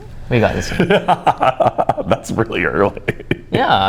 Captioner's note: laughing